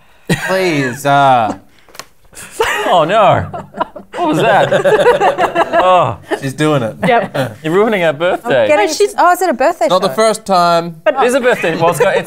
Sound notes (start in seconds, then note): 2.6 laughter